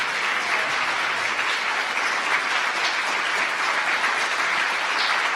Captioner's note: laughs; audience applause